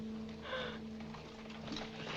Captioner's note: weeps